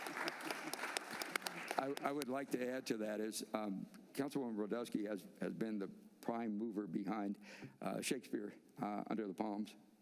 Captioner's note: applause